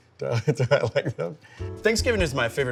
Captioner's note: laughs